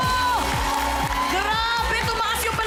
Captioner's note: applause